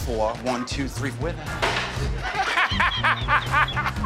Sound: laughter

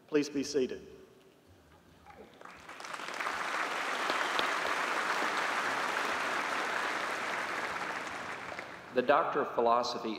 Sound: applause

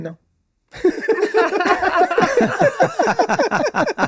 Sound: all laughing

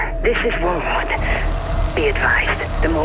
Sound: frenzied static

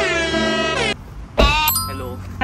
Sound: slams car door

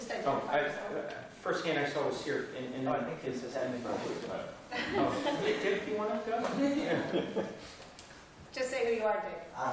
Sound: laughter

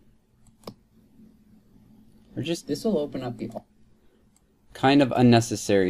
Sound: recording playing

